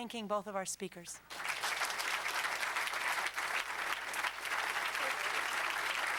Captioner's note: applause